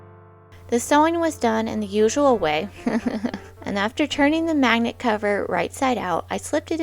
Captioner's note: chuckles